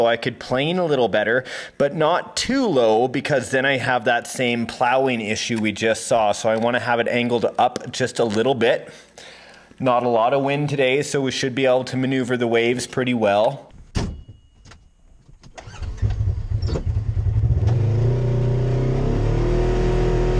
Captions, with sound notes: so I could plane a little better. But not too low because then I'd have that same plowing issue we just saw. So I want to have it angled up, just a little bit. Not a lot of wind today so we should be able to maneuver the waves pretty well. (door closes) (engine revs)